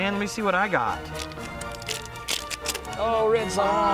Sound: plastic ripping

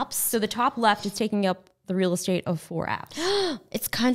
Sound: gasping

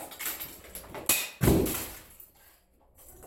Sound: thunk

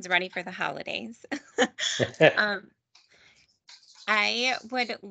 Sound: laughing

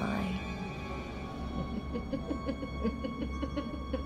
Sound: evil laughter

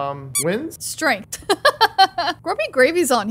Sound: laughs

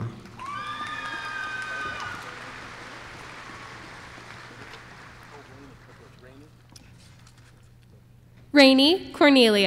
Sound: applause

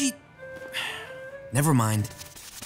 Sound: sighs

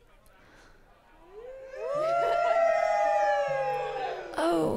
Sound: crowd cheering

